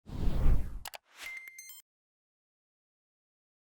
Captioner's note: logo clicking